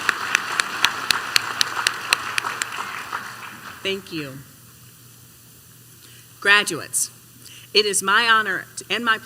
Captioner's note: applause